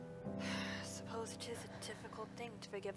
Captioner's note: sigh